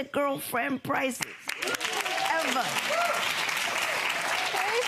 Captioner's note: audience applauding